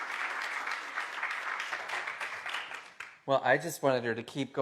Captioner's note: applause